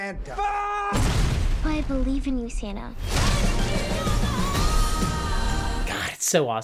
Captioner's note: henchman screams and explodes